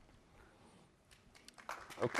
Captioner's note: applause